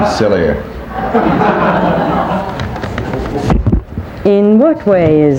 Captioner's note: people laughing